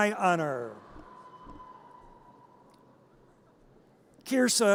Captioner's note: audience cheers